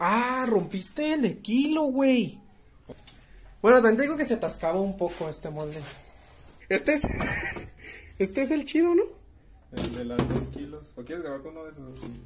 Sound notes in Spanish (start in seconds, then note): 7.1 risa de mono